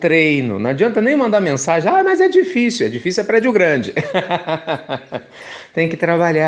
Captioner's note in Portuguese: Risos